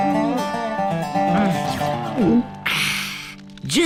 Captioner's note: gulps